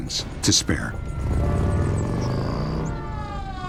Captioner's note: siren